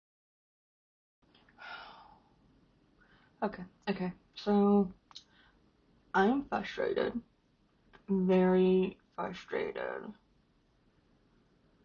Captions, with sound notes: (big sigh) Okay, okay, so. I am frustrated, very frustrated.